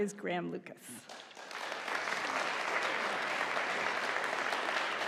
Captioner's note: audience applauding